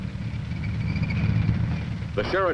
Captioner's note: tank engine rumbling